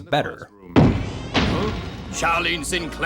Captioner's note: door slamming open